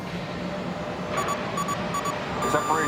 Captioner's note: alarm